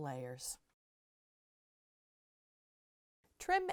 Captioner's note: no Sound Present